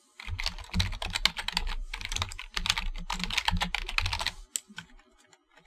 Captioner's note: typing stuff